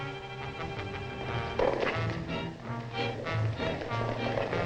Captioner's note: horses galloping